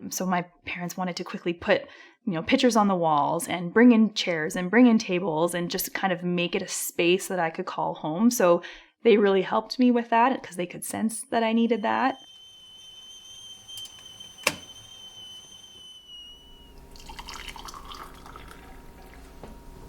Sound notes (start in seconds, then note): 11.5 teapot whistling; 16.5 water pouring